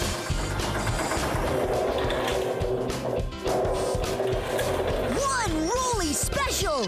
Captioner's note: engine Rumbling